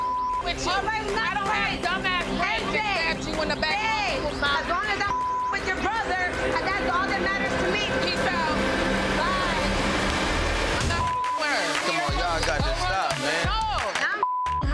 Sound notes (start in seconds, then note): 0.4 both shouting and chattering; 4.7 beep; 10.8 beep; 14.1 beep